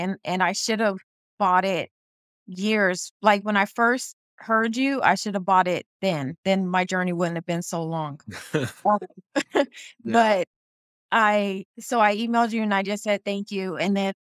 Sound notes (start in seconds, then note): 8.3 haha